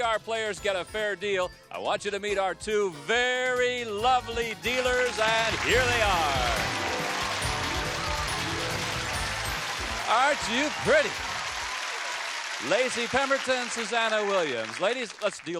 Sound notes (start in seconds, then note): 7.5 applause; 7.5 theme music playing